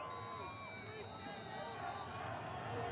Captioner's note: whistle